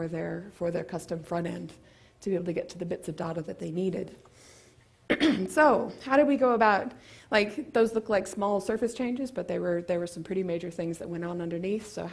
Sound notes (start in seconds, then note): 5.0 cough